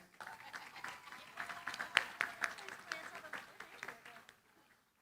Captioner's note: applause